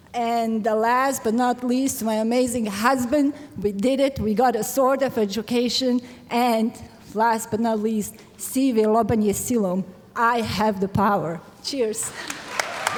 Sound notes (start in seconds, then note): 8.7 foreign language